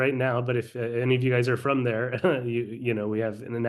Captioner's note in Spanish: risas